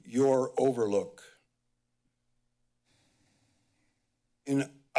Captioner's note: pause